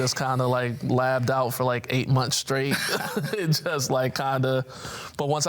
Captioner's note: laughs